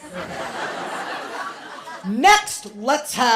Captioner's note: laughter